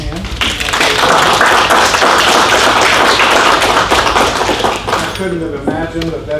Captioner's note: audience applauds